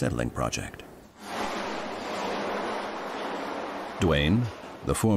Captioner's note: gate rattling